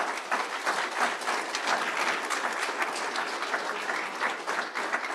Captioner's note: audience applauding